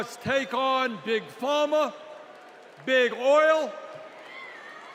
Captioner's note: cheers and applause